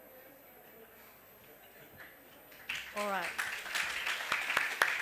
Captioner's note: applause